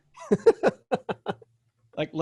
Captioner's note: laughs